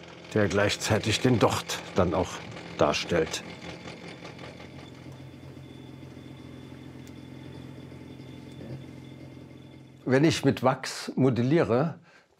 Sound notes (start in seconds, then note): 3.1 halting rattling; 5.1 constant humming